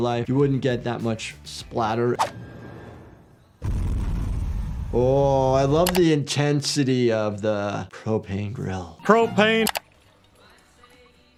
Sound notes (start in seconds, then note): 2.1 suspenseful music; 2.1 graphics whooshing; 2.3 flames whirring; 3.6 booming music; 5.8 graphics clicking; 8.8 pleasant music; 10.5 pleasant music plays distantly